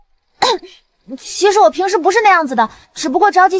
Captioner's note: ahem